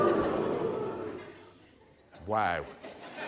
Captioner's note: laughter